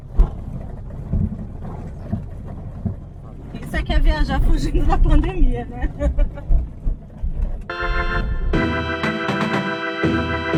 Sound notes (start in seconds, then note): 5.8 laughter